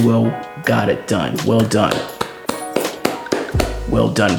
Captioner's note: claps